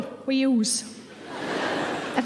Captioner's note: audience laughing